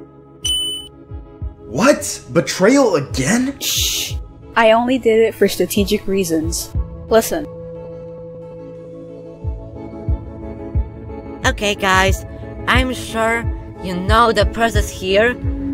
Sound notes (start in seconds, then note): 0.4 dink; 7.5 whispering